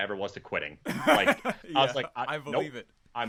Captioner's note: laughing